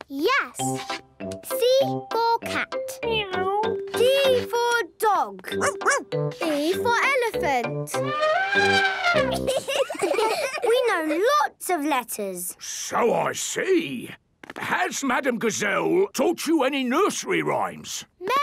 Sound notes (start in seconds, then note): 7.9 trumpets; 9.1 laughing